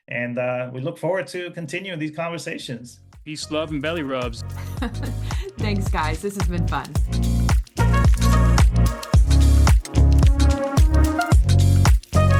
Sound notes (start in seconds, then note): 4.6 laughs; 7.1 upbeat music